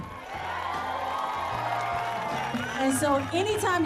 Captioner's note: cheers and applause